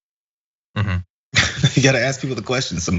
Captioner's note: laugh